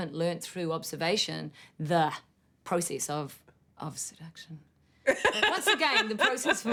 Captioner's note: laughter